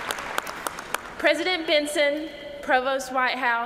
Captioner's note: cheers and applause